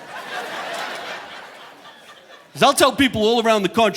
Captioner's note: chuckles; audience laughing